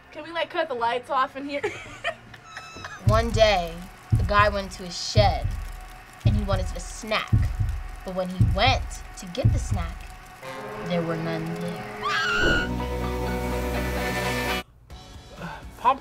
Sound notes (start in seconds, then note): 1.6 laughs; 11.9 woman screams; 12.5 upbeat music